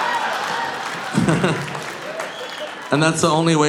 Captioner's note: audience laughing; audience applauding; Nick chuckles